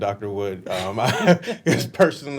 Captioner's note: laughing